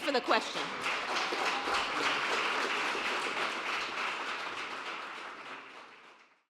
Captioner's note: applause